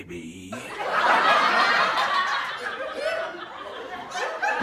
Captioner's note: background laughter